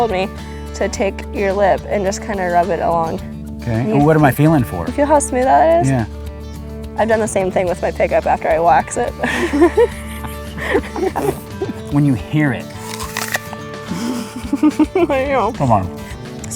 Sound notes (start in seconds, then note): 9.2 laughter; 12.7 bites into apple